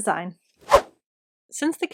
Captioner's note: swooosh